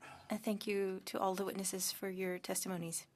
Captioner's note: speaking French